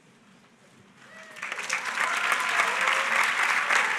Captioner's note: applause